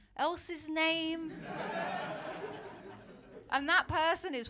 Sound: laughter

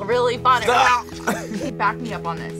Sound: laughs

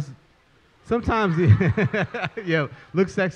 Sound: laughs

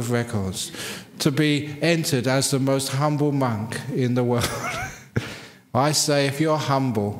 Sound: laughs

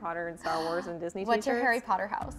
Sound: gasps

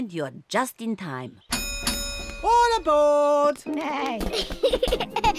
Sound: dings bell

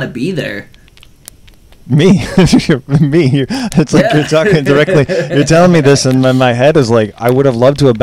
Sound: laughs

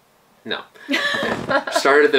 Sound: laughing

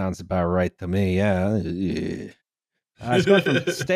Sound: laughs

